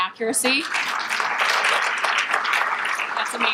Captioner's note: crowd claps